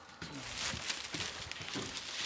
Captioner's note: rustling